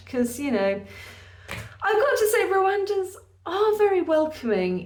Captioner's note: none